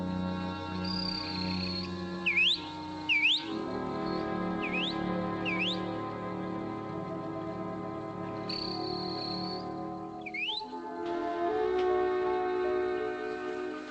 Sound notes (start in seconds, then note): 0.3 chirping like a bird; 8.3 chirping continues; 11.6 suspenseful music